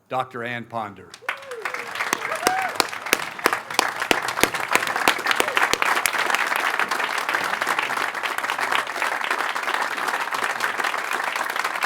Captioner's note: applause